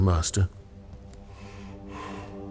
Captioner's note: slow footsteps